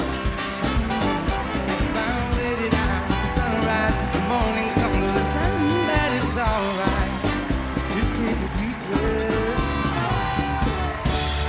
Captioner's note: cheers and applause